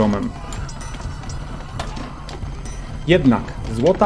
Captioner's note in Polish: odgłosy walki